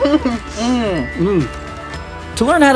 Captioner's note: murmur